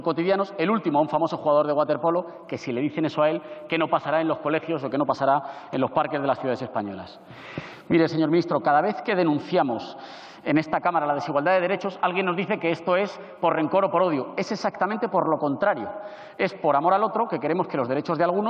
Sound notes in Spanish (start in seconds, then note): none